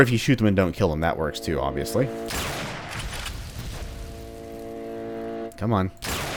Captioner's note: bam; bam